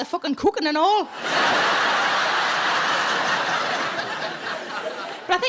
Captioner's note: audience laughing